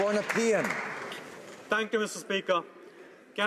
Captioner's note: applause